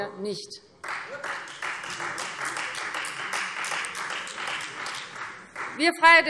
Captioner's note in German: Beifall Freie Demokraten - Zuruf